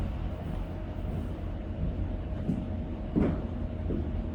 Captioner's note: footsteps tapping